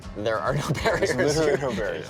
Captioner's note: laughing